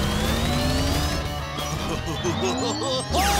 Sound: robot laugh

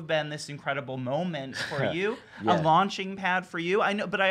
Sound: laughs

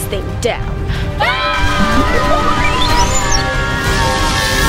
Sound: all screaming

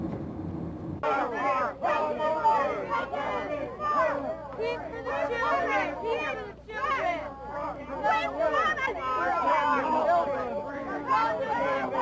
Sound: people protesting

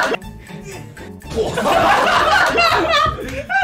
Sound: laughing out loud

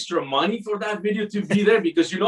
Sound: chuckles

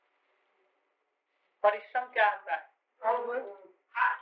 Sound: Hindi

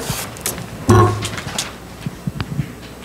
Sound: mic bumps

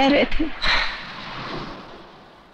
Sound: sighs

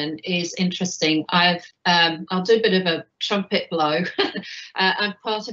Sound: chuckles

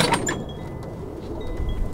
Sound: gate closes

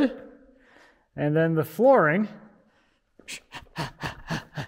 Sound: huffing

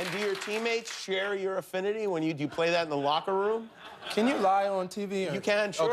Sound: cheers and applause

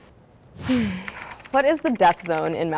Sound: air whooshing; keyboard clicking

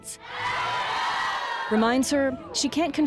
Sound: crowd cheering

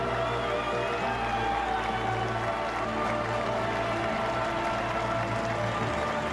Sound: audience cheering and applauding; elated choral music continues

